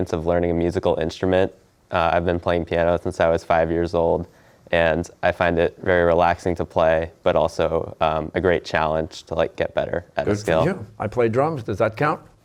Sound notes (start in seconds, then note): none